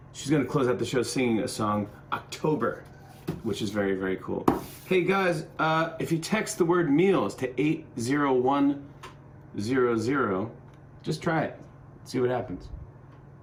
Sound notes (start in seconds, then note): none